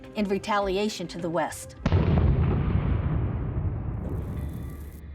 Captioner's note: explosion